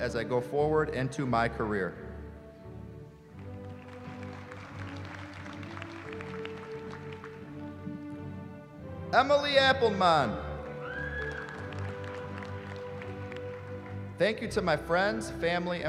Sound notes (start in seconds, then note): 3.4 applause; 10.6 applause